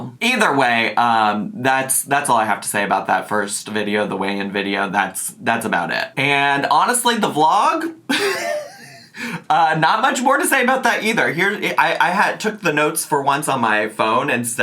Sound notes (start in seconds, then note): 8.1 laughing